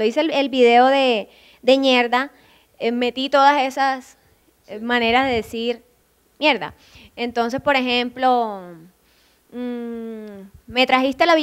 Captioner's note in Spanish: con acento